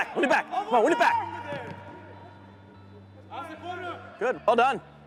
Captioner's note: team cheers